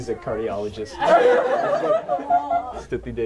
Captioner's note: laughter